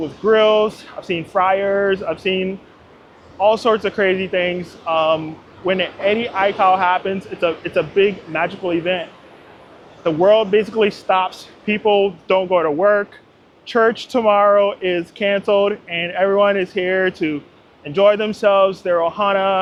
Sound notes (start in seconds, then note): none